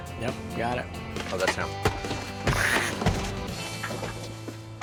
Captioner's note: laughs